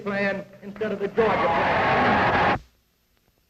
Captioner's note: cheers, applause